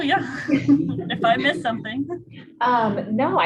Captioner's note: laugh